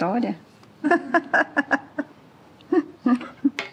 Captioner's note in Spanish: Risas